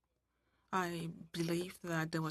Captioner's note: speaking French